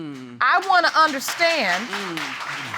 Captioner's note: audience applauds